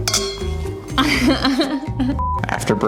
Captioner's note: glass chimes; laughs; beep